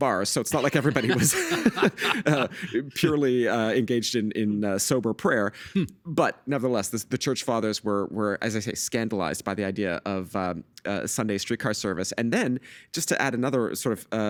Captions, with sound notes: so it's not like everybody was... (Laughing) ...purely engaged in sober prayer. But nevertheless, the church fathers were, as I say, scandalized by the idea of Sunday streetcar service. And then, just to add another sort of